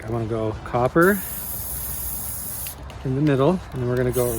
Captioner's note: spray can spraying